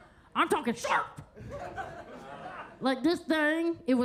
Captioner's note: attendees laughing